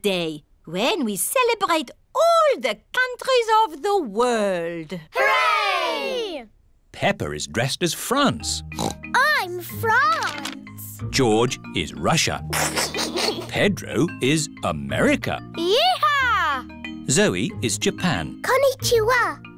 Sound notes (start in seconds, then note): 8.7 oinks; 12.5 giggles